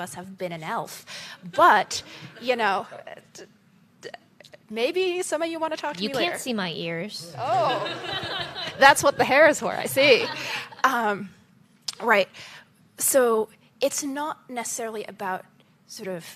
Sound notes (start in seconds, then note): 9.9 laughter